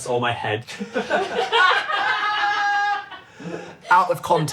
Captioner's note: everyone laughing